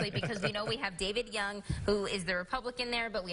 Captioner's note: laughing